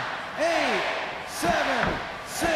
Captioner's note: crowd cheering